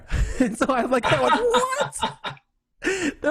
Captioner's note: laughs